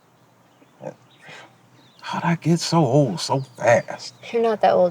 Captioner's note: scoffs